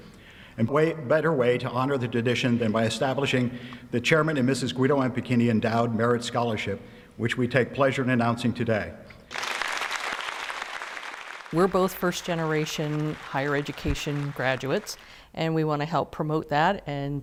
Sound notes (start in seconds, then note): 9.3 applause